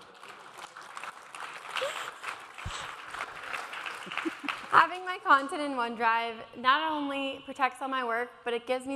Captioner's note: applause